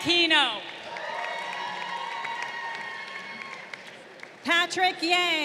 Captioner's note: crowd cheering